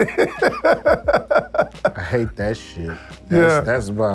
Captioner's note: laughs